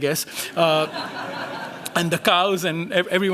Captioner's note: laughter